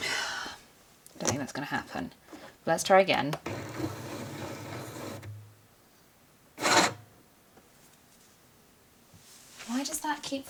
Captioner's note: sighs; machine spits vinyl out